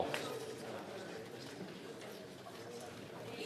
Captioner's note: speaking FRENCH